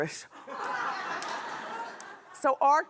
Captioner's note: laughing